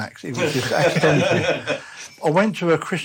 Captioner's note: laughter